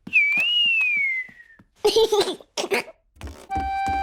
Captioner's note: whistling and giggling